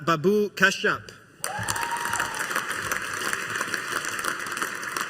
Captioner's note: audience applauding